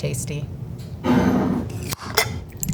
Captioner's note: jar sliding; lid opening; salsa pouring